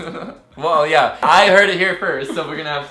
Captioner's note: laughs